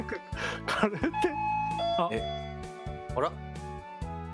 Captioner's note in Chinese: 門鈴的聲音